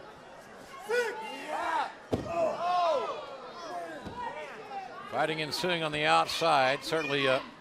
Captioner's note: crowd chatter